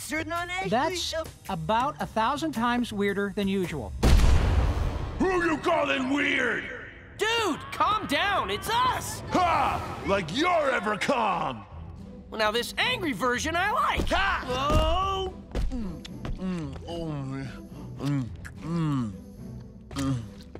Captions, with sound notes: That's about a thousand times weirder than usual. [thudding] Who you calling weird? Dude, calm down. It's us. Ha! Like you're ever calm! Well, now, this angry version I like. Mm, mm, mm. Mm, mm, mm.